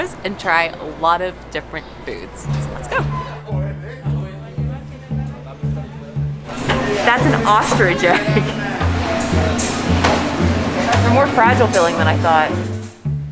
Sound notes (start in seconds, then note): 3.2 gentle music begins; 7.7 laughs